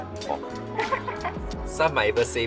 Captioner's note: chuckles